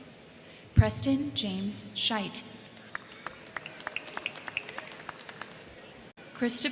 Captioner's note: crowd cheering